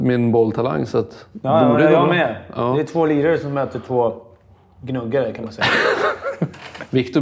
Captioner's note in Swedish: skratt